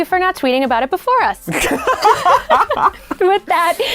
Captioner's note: laughing